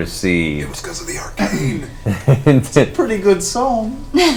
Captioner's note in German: flüstert